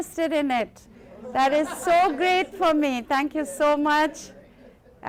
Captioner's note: laughter